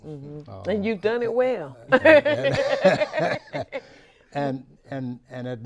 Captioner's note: host and guests laugh